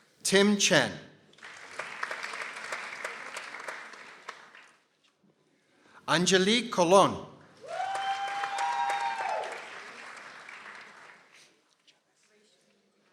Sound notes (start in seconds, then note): 1.3 people applauding; 7.6 people cheering